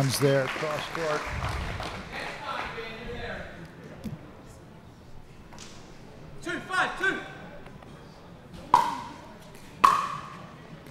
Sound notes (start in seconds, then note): 2.8 players chattering; 8.2 ball bouncing